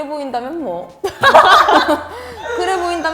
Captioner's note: laughing